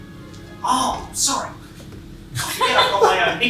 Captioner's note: howling stops